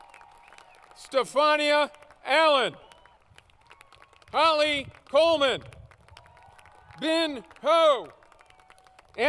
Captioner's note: applause